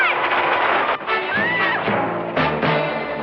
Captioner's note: screams